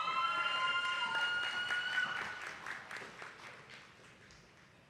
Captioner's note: attendees clapping